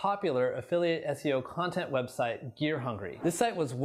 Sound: air whooshes

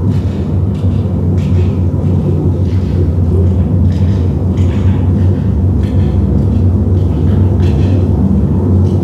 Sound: low rumbling increases

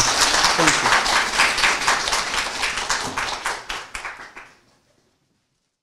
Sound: applause

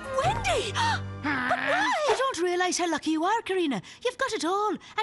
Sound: gasps

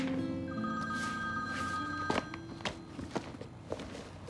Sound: phone rings

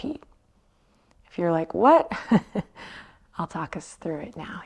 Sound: chuckles

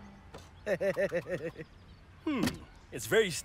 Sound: chuckles

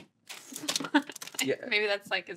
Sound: she laughs

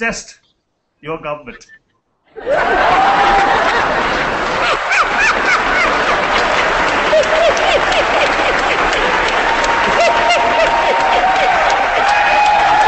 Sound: applause

